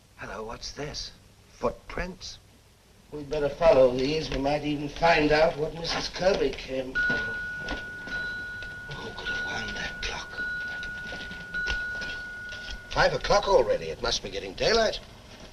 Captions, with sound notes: Hello. What is this? Footprints? We'd better follow these. We might even find what Mrs Kirby came for. [ Clock chimes ] Who could have wound that clock? Five o'clock already. It must be getting daylight.